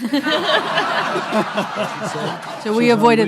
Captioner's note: everyone laughing